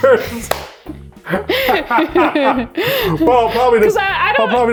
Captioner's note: both laughing